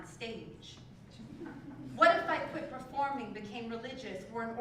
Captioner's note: laugh